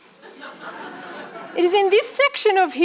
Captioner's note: audience laughing